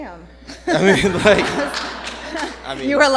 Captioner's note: laughter